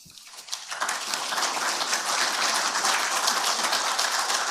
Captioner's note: audience applauding